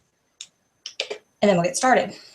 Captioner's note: click